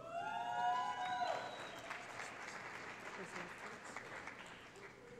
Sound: cheering

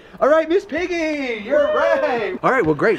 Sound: cheering

